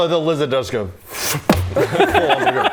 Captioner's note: thud